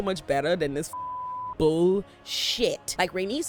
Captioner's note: beep